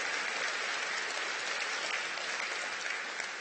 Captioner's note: applause